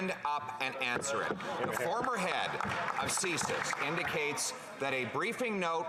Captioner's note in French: voix de l'interprète